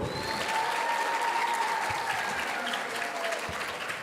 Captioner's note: audience cheering